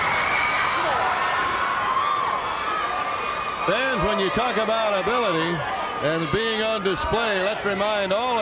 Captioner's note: crowd cheering